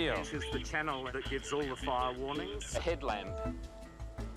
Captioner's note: chatter